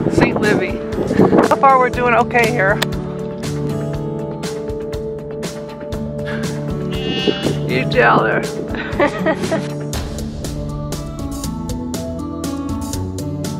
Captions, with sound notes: St. Livi. So far we're doing okay here. (sheep bleats) You tell her. (laughs) (upbeat music)